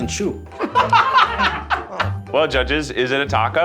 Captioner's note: everyone laughing